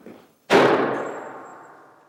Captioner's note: gunshot